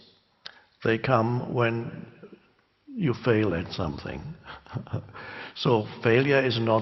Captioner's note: laughs